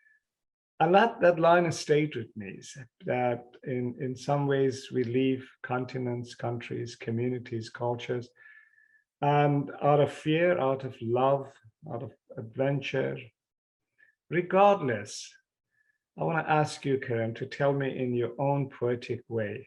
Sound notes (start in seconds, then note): none